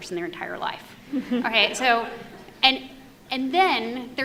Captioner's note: audience laughs